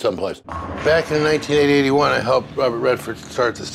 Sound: bowling sounds

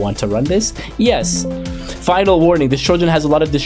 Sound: computer chimes

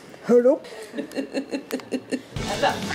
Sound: laughs

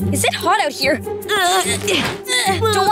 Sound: grunting

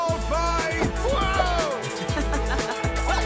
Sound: laughing

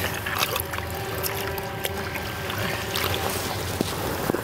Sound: water splashing

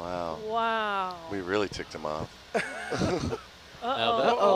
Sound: laughs

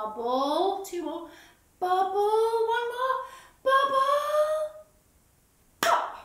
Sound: claps

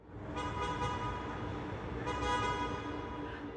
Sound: cars honking

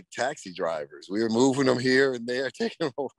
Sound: laughs

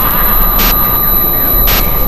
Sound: laughing; screeching Sound

